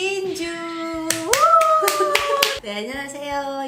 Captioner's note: clapping